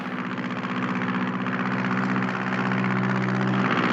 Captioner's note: cheering; airplane motor sputtering